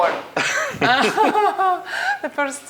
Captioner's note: both laugh